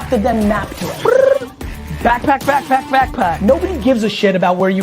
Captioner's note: trills